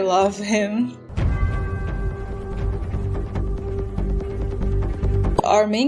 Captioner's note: church bell rings